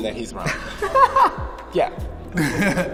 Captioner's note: Keiynan laughing